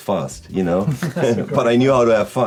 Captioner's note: laughing